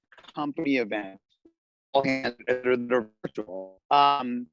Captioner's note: cell phone static